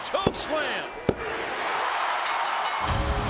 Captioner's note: bell dinging; crowd cheering; upbeat music